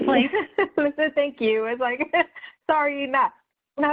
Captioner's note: laughing